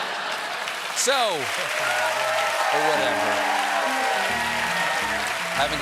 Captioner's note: laughter; cheers and applause; piano riff